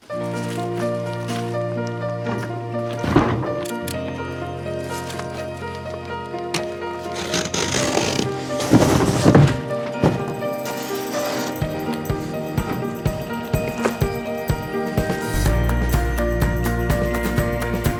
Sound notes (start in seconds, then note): 0.2 hopeful music; 7.4 scratching; 9.3 thumping